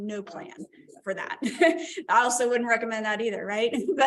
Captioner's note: laughter